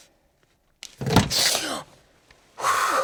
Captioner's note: door opens